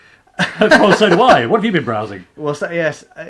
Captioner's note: laughing